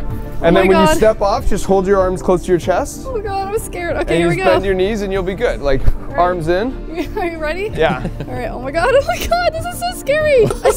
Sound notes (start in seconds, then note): 7.6 laughing